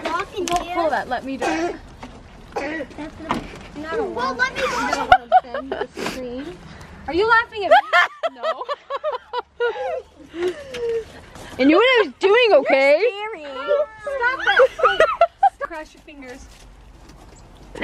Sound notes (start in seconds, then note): 5.2 laughs